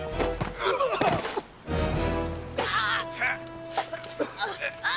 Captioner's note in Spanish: Drogo y Voss gruñendo